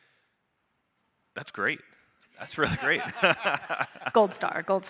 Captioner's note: laughs